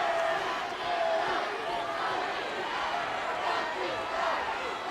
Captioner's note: crowd chanting